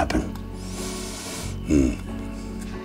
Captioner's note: inhales deeply